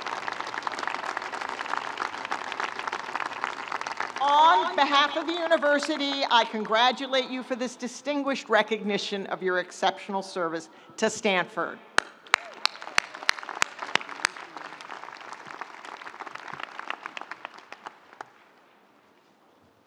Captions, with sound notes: On behalf of the university, I congratulate you for this distinguished recognition of your exceptional service to Stanford. (audience applauding) (audience cheering)